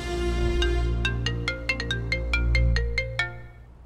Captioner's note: Phone ringing